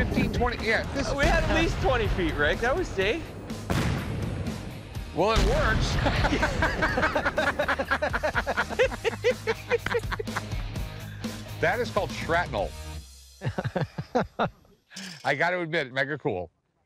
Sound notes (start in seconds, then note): 5.9 laughter